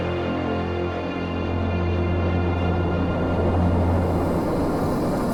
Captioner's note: ship engine humming